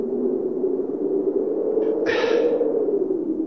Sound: sighs

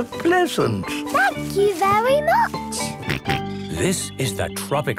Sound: George snorts

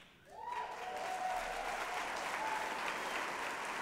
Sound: applause

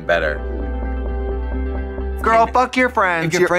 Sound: soft music; text whirring

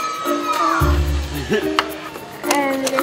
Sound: haha

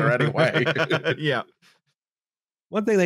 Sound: all laughing; still laughing

